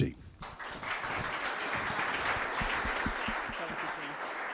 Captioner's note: audience applauding